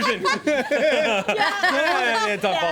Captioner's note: everyone laughs